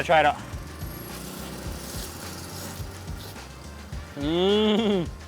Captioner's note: upbeat music; slurping